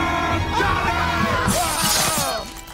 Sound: both screaming

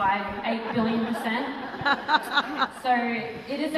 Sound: audience laughter

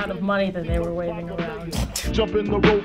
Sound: snickers

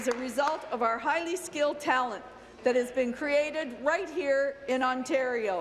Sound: applause

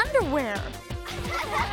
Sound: all giggling

